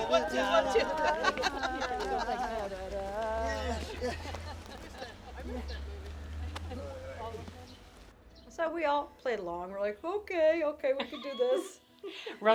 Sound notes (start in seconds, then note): 1.6 laughs